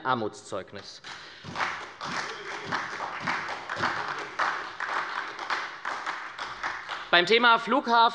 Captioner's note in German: Beifall bei der SPD